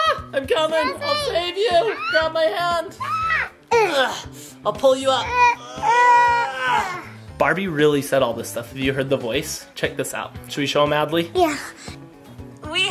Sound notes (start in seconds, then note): 3.7 groaning; 5.2 groaning continues